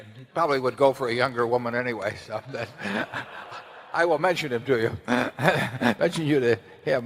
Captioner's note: laughter